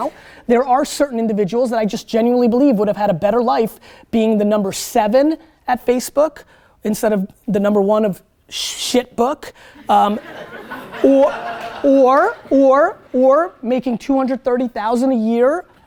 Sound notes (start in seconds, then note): 9.8 students laugh